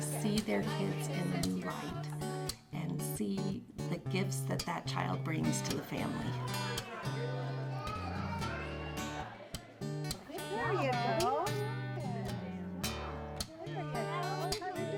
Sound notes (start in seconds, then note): 6.3 children shouting; 9.5 inspirational music